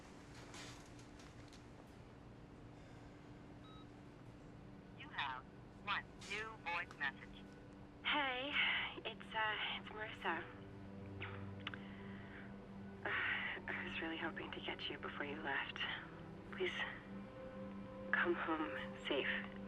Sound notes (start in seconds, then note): 3.7 beep; 13.0 sighs